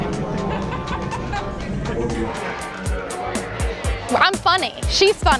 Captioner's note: laughing